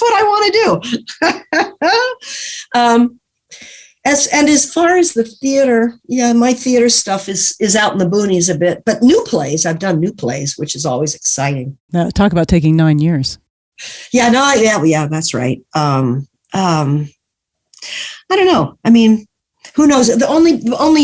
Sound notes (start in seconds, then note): 3.1 laughing